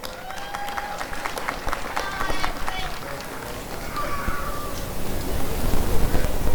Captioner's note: applause and cheering